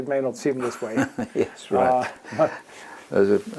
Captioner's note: laugh